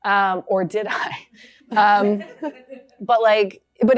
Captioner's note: laughter